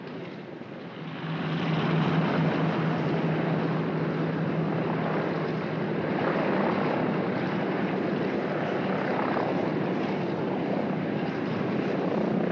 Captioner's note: aircraft rumbles